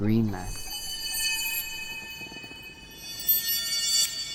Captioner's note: trees creak